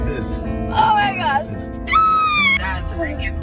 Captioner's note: screams